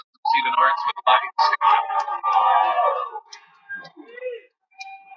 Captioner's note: cheering